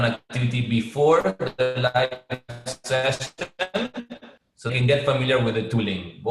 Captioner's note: sound interference